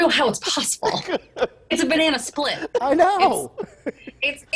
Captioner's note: laughter